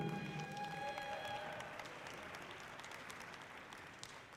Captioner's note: audience cheering loudly